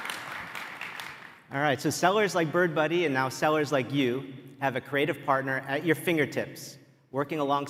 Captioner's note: applause